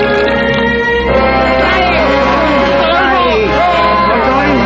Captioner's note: laughing